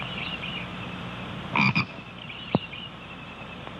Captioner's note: frog croaking